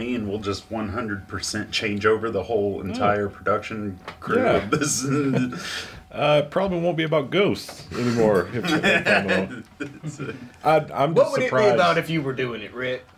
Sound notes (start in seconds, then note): 8.5 Dave laughing